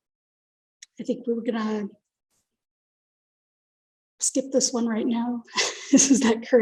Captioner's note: chuckles